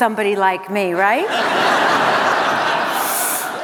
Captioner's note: laughter